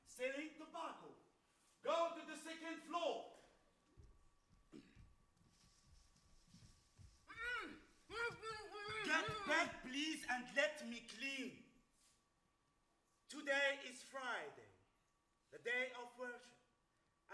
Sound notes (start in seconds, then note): 0.5 speaks Arabic; 7.3 woman groans